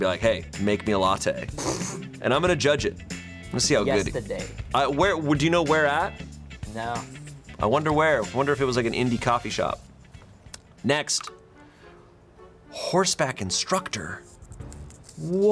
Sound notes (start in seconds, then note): 1.6 crew member snickers; 11.1 button clicks; 11.2 quirky intriguing music